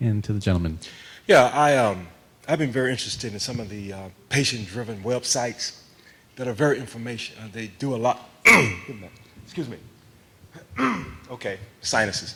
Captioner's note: cough